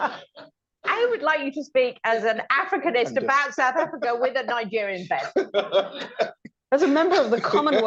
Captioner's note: laughter; laughter